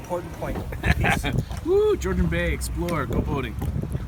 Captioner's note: laughs